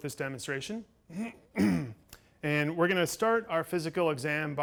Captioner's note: clears throat